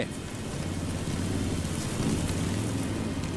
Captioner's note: locusts buzzing